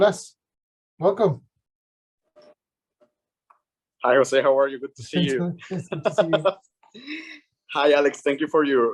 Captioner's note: laughs